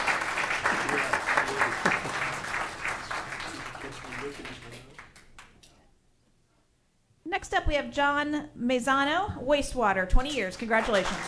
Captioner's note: applause